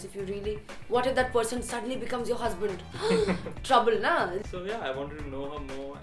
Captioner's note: gasping